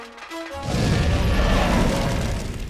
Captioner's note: roars